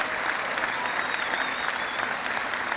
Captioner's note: cheering